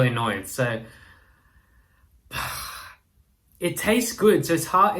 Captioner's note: sighs